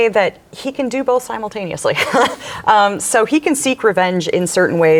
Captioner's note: laughs